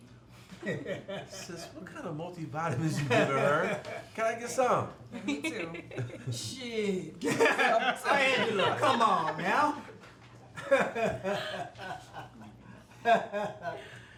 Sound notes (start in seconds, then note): 0.5 group laughing; 10.6 laughing